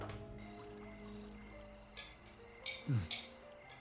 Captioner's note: insects chirping; dishes clinking